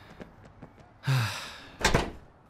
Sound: sighs

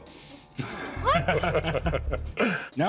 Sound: laughter

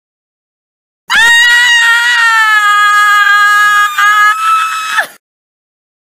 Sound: high-pitched scream

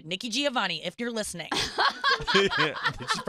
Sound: laughing

